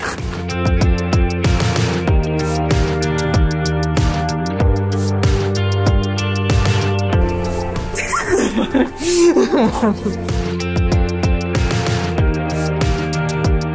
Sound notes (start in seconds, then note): 0.0 upbeat music; 7.8 girls laugh; 10.2 upbeat music continues